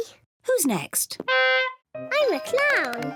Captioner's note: horn honks